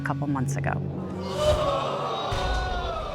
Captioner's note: audience exclaiming